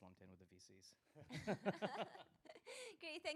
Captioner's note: laughter